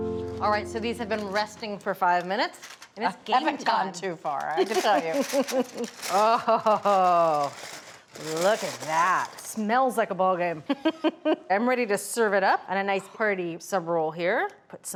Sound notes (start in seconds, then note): 4.5 laughing; 10.6 laughs